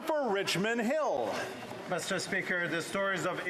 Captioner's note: some Applause